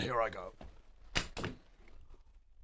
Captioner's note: thunk